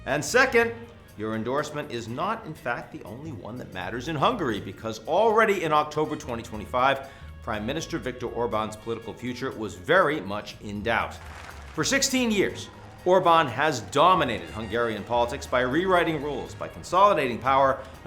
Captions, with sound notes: And second, your endorsement is not, in fact, the only one that matters in Hungary because already in October 2025, Prime Minister Viktor Orbán's political future was very much in doubt. (crowd applauds) For 16 years, Orbán has dominated Hungarian politics by rewriting rules, by consolidating power,